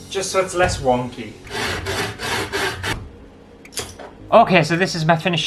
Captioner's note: sawing Sounds